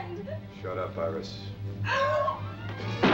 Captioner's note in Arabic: طلقات نارية